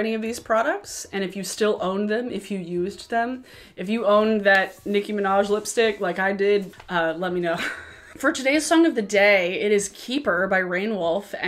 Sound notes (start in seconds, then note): 7.6 chuckles